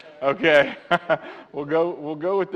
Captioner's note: laughs